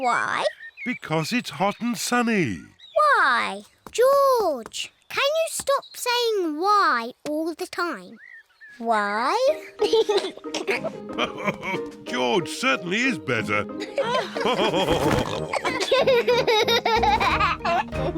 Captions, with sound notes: Why? Because it's hot and sunny. Why? George, can you stop saying "why" all the time? Why? (GIGGLES) (LAUGHS) George certainly is better. (ALL LAUGHING)